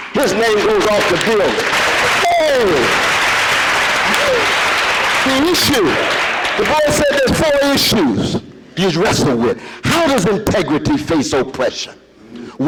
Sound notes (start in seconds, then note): 2.2 audience applause